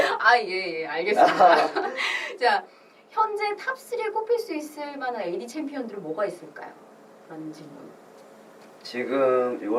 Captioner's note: laughs